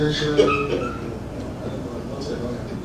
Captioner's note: laugh